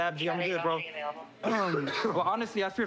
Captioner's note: coughs